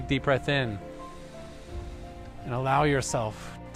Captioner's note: inhaling